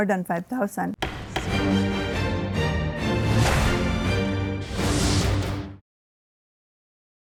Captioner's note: gavel clacks; dramatic music